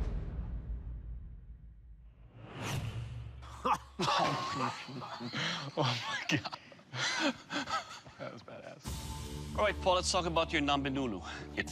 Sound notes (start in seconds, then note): 3.6 laughter